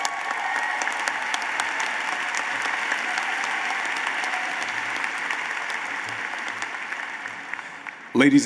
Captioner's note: applause